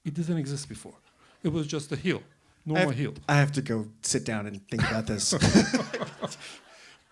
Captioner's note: laughter